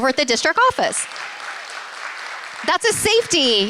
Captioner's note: applause